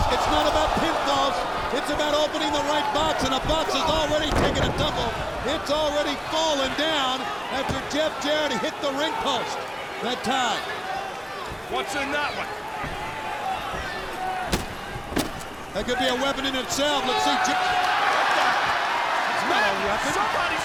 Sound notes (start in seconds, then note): 14.7 foot stomping; 18.0 crowd laughing